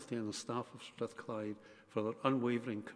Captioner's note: none